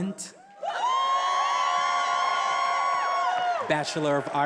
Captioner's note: attendees applauding and cheering